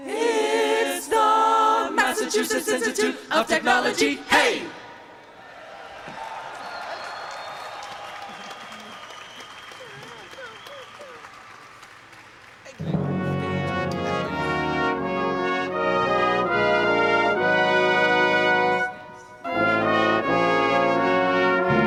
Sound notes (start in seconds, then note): 7.1 cheering; 13.6 processional music